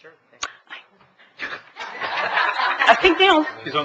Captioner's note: all laughing